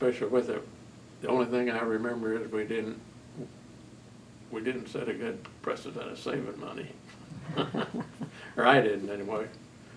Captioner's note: laughs